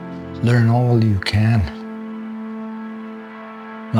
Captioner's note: speaking in an Indigenous language